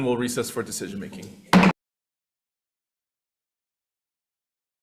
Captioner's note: gavel thuds